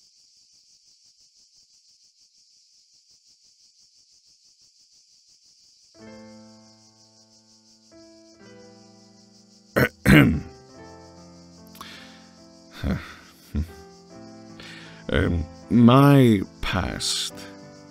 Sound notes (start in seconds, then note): 9.8 ahem; 12.7 sighs